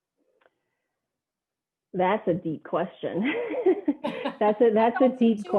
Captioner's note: laughter